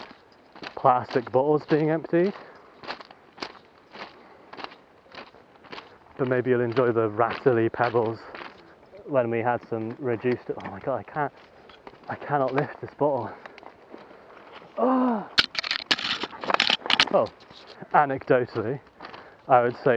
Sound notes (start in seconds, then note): 14.7 gasps